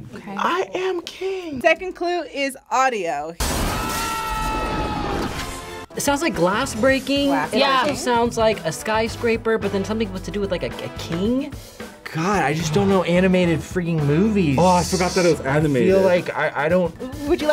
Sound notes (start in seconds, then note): 3.6 glass breaking and man yelling